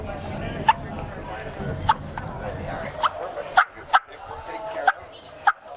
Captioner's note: turkey mouth call sounds